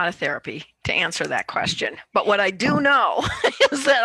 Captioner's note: laughs